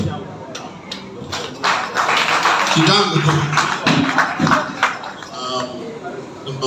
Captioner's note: a round of applause